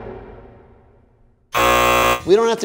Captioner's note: buzzer